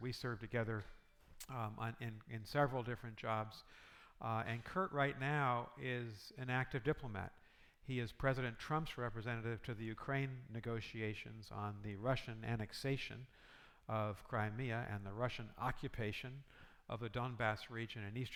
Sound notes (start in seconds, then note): none